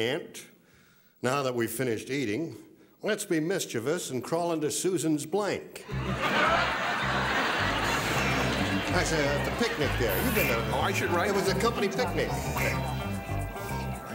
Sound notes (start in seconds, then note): 5.8 laughter; 13.9 murmuring